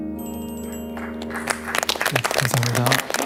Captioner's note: applause